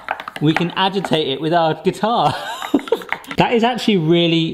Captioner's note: laughs